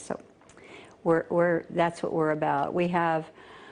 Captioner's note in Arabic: تتحدث الإنجليزية